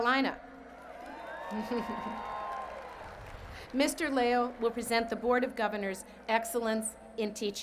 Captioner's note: cheers and Applause